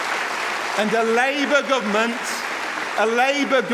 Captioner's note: applause